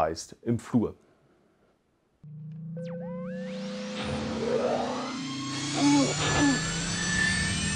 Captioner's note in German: Millennium Falcon Antriebsgeräusche